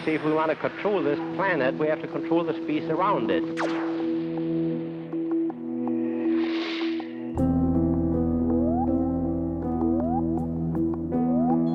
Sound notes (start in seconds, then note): 3.4 zaps; 8.0 device making blooping noise; 11.5 beeping